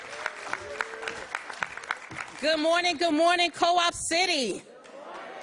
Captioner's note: applause